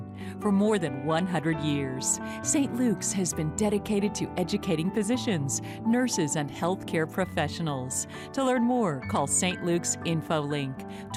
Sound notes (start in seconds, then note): none